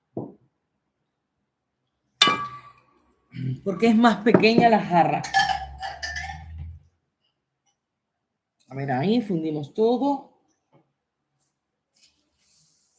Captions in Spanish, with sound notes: [carraspeo] Porque es más pequeña la jarra. A ver, ahí fundimos todo.